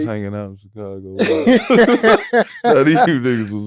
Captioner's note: all laughing